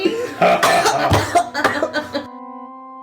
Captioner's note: all laugh; thppp